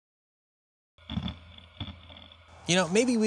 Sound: grinding

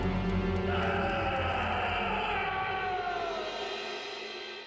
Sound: voice screeching

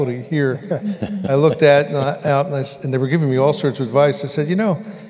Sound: laughter

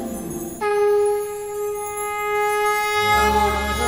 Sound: conch blows

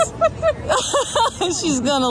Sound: laughs

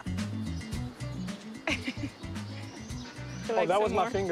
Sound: laughs

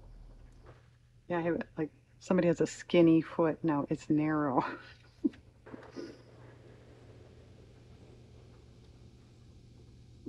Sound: laughs

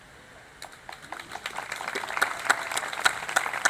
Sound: applause

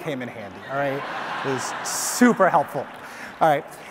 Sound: audience laughs; audience applause

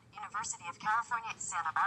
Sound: electronic voice

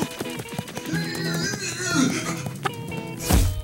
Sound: grunting

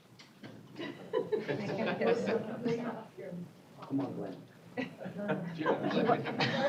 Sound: laughter; indistinct chatter

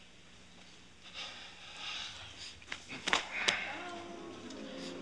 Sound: sighs; audience moaning

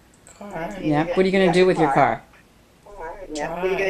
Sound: voiceover

